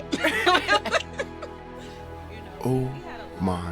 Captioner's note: laughter